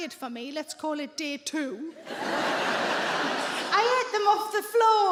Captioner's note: audience laughing